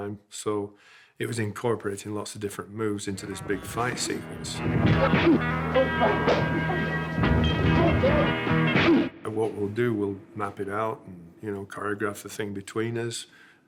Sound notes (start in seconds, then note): 3.3 twangy music; 4.6 punches thud